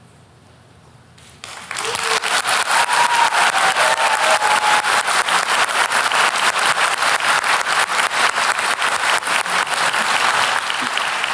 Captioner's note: applause